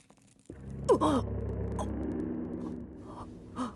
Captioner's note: gasps